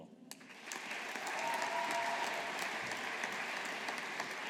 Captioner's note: audience applauding